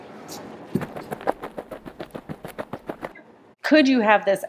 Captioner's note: footsteps clacking